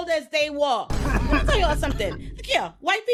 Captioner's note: laughing